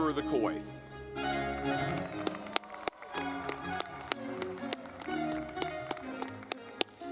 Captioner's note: lively music; audience clapping